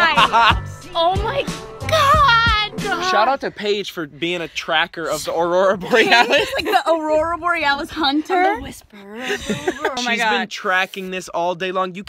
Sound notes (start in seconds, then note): 0.0 laughs; 5.8 laughs; 9.0 laughs